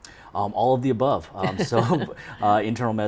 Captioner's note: laughs